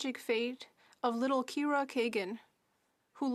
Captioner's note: speaking French